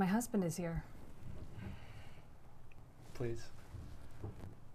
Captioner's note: sighing